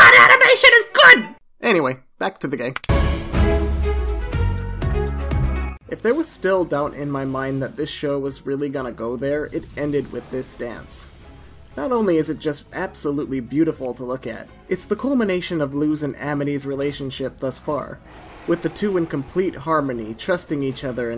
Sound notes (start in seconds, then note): 2.7 remote control clicks; 2.9 upbeat music